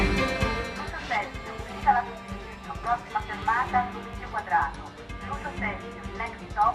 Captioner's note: automated announcments